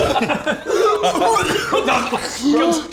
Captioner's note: coughing